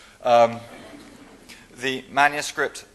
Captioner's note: laughing